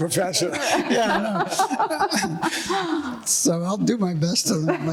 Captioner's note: laughing